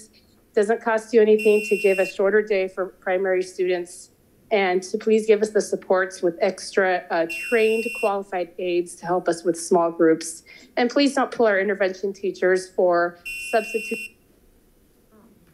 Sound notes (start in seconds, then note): 2.9 buzzer chimes; 7.2 buzzer chimes